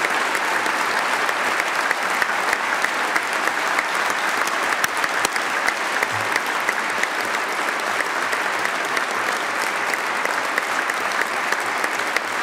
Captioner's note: applause